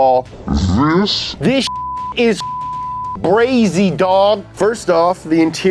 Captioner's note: beeps